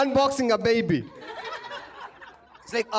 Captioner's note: laughter